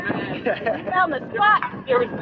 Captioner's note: laughs